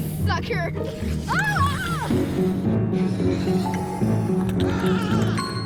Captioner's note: screaming; man screaming